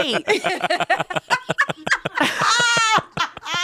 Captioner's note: all laugh